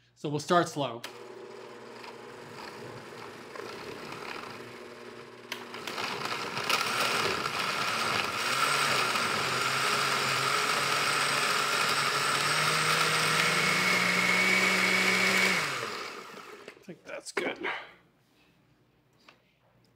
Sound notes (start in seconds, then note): 1.7 whirring softly; 6.2 whirring quickens; 15.7 blender stops